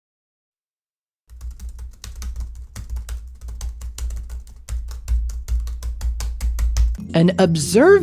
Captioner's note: angrily typing